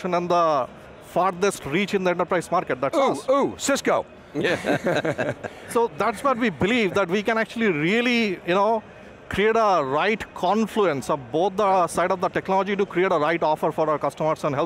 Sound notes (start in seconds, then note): 4.4 laughter